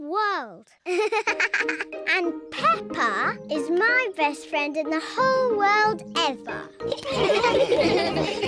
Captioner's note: giggling; all laugh